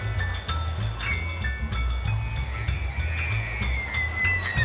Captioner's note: screaming